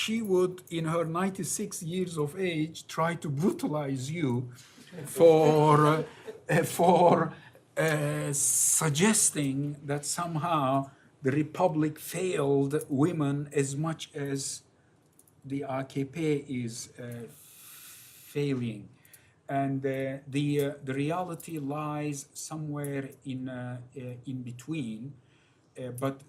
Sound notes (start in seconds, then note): 4.9 laughter